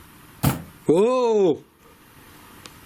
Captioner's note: bang